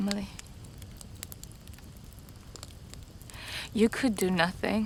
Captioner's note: fire crackling